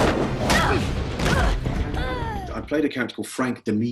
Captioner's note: groan